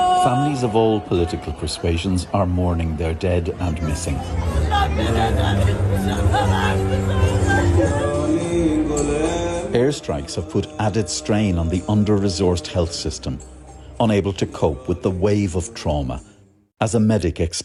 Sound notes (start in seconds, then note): 6.0 crowd cheering